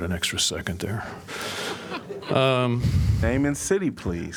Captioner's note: laughter